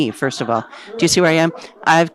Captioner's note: audience laughs